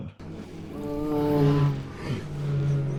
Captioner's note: despairing groan